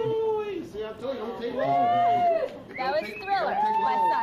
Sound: cheering

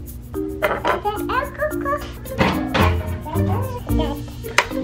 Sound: baby mumbling

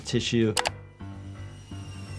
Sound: mouse clicking

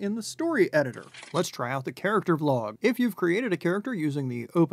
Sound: camera clicks

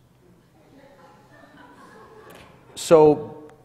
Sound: laughter

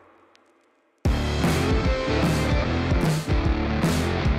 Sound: none

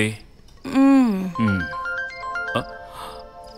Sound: phone ringing

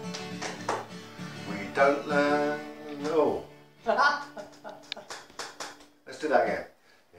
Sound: laughter

